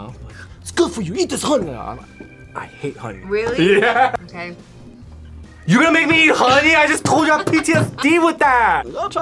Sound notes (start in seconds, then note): 3.2 laughs